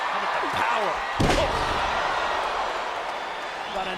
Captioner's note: crowd cheering; body slamming